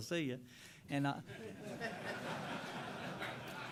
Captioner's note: laughter